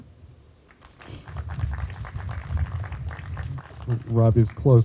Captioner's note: group applauding